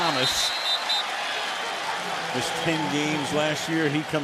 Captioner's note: whistling